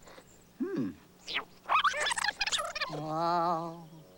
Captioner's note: squeaking; bird screeching